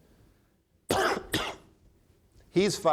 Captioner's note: coughs